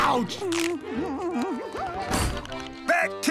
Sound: humming

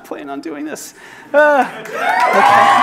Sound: crowd claps

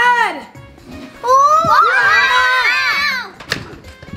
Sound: all scream

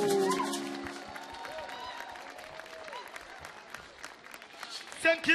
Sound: audience cheering; audience clapping

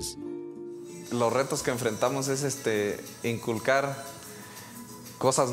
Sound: in spanish

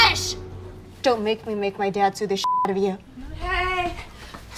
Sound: beep

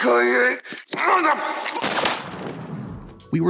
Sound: gunshot

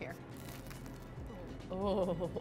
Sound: bread crunching

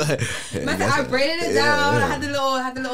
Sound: laughs

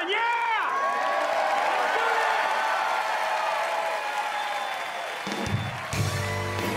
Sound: crowd cheering

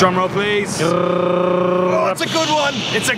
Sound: drum roll mouth sound

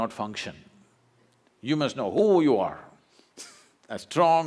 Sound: laughs

